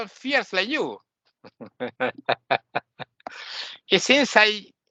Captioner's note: laughing